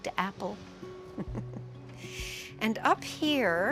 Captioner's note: giggles